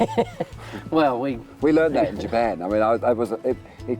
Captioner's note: laughs